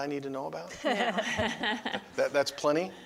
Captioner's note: laughing